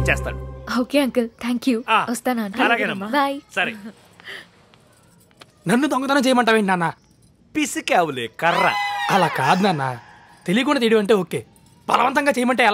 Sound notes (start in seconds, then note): none